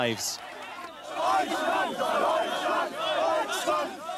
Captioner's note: people chant